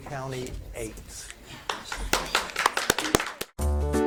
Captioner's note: spectators clap; upbeat music